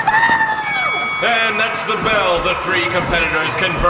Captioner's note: ding!